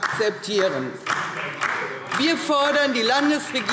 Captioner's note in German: Beifall DIE LINKE